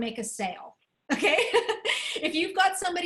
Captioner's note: laughter